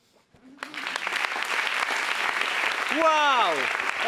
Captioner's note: audience applauds